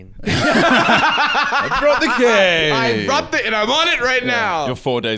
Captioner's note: both laughing